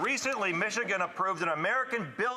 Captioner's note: applause